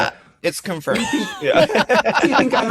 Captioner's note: laughter